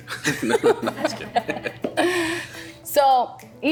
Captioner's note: laughing